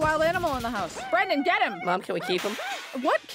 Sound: crash; shattering glass

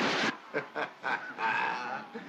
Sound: laughs

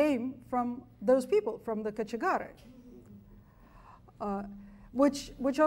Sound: speaks foreign language

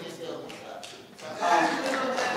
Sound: applause

